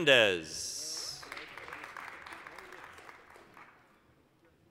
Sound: applause

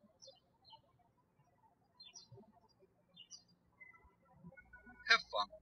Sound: birds chirping

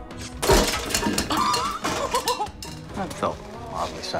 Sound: lamp rattles; laughs

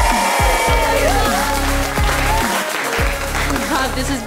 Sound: cheers and applause

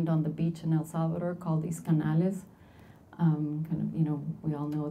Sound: speaking Spanish

